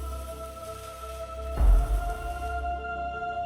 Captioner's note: sparse, rhythmic thudding